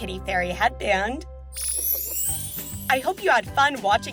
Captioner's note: chime